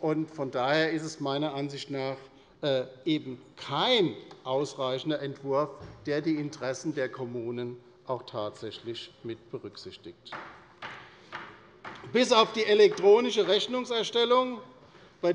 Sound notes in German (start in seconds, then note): 10.3 Beifall bei der LINKEN